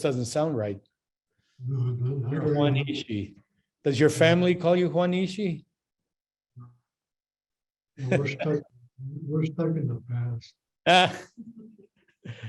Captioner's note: laughs